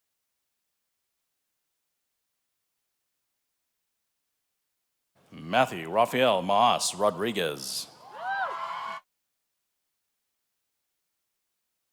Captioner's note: cheers and applause